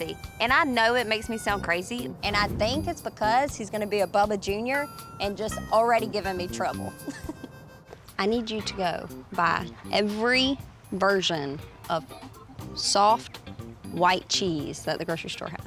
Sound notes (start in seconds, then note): 6.8 chuckles